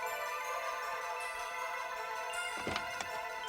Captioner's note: none